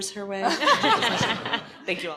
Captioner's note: laughter